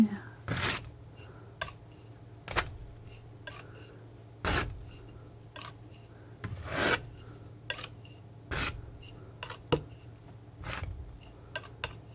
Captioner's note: scratching